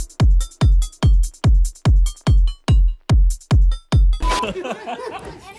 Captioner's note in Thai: หัวเราะ